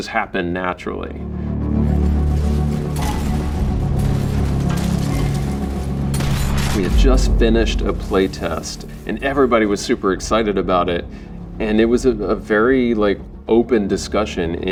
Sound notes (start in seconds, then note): 1.8 guns shooting; 1.8 intense music